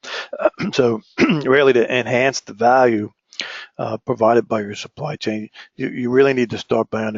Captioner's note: cough